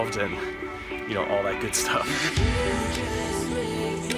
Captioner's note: laughing